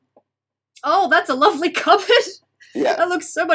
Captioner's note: chuckles